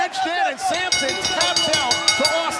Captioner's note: bell ringing